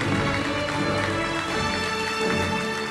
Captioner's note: applauding